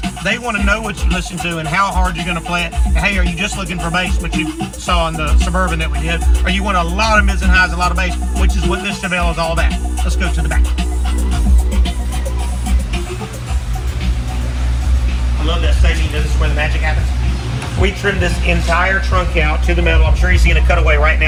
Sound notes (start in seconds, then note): 10.7 upbeat music continues; 10.7 vehicle engine revs